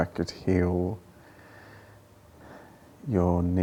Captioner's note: sighs